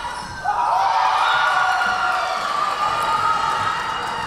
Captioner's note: Tigers cheering